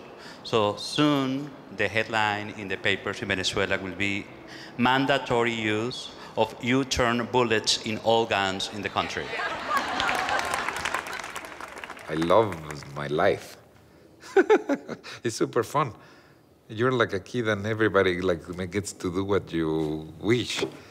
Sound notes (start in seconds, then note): 9.0 laughter and applause; 14.2 laughs